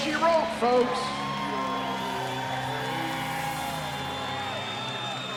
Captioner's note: crowd cheering